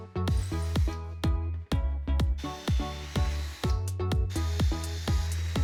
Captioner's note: drilling machine screeching